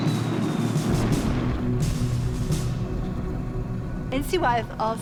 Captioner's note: explosion booming